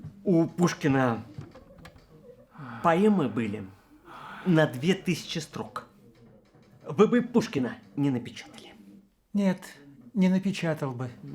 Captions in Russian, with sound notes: У Пушкина... (ВЗДОХ) поэмы были... на 2000 строк. Вы бы и Пушкина не напечатали! Нет, не напечатал бы.